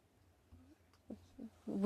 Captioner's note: speaking in French